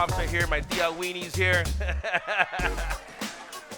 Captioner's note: speaks in Spanish; laughs